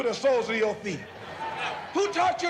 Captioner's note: laughter